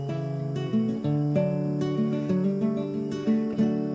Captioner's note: insects chirp